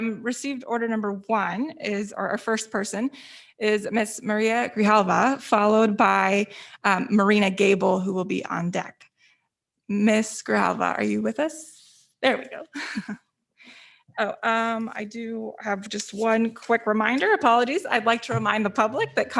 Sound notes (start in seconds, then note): 13.2 chuckles